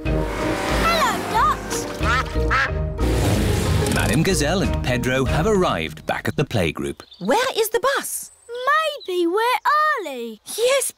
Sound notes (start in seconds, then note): 1.8 quacking